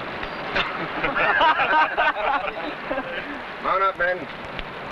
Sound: men laughing

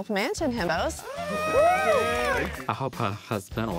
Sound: himbos cheering

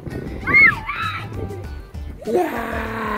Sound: kids laughing and screaming

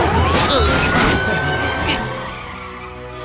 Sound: police siren wails

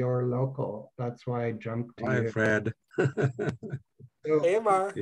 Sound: laughs

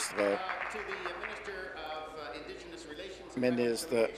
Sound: applause

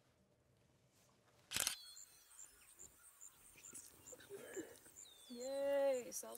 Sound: camera shutter clicking

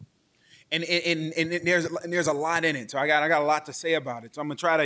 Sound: stammers

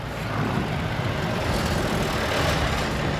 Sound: engine rumbling

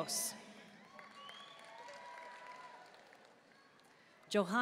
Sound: audience cheering and applauding

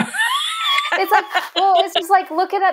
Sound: laughing

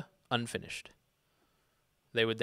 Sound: none

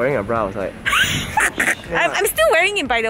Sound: laughs

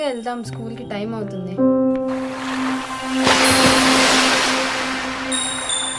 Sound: water splashing

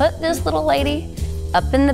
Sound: Chloe gasping

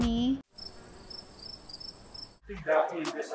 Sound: cricket sound

